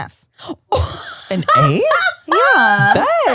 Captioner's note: laughs